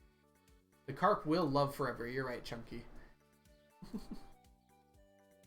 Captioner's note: chuckles